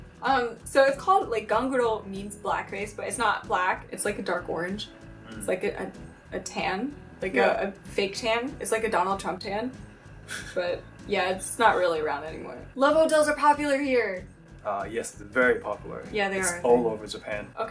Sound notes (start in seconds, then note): 9.8 laughs